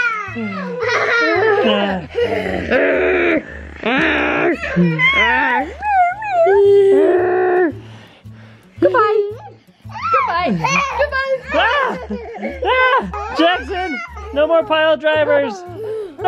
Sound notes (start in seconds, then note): 1.6 grunting; 11.4 laughing